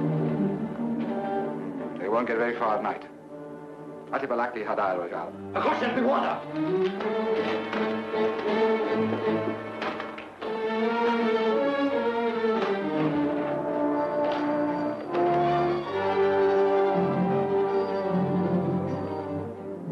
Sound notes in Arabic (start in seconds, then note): 4.8 يتحدث لغة أجنبية; 6.2 الرجل يتكلم لغة أجنبية; 7.5 موسيقى درامية